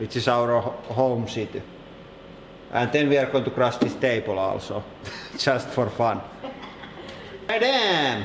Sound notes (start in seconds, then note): 6.4 snickers; 6.4 evil chuckling